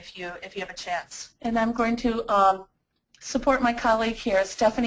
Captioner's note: voiceover